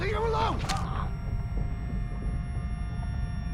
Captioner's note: stabbing sound